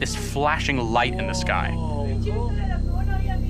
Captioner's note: indistinct chatter